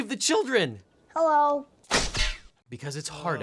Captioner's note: gun fires